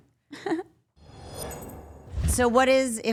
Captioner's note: logo whooshing